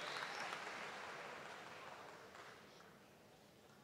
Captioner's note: cheers and applause